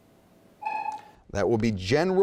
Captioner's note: dinging